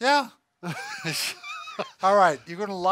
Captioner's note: laughter